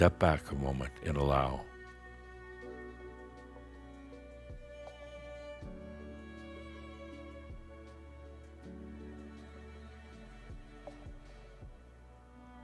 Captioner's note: longer pause